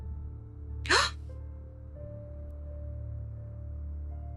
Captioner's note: gasps